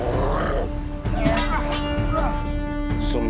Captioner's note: wolf growls; axes clash